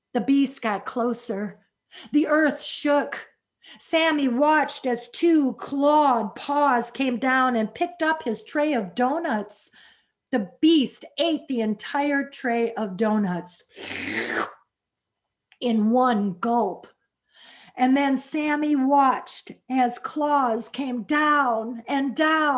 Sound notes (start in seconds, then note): 13.8 slurps